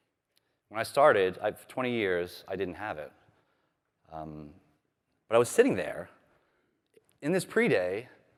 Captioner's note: none